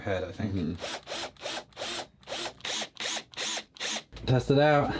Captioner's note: drill motor running in bursts